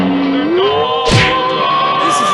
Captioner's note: crash!